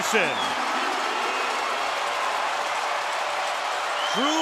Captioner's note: crowd cheering